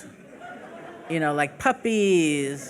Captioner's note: laughing